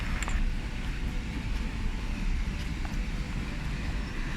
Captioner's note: water rushing